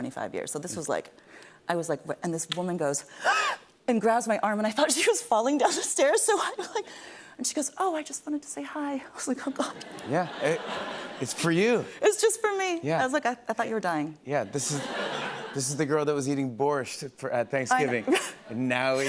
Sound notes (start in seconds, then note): 2.8 gasps; 14.5 laughter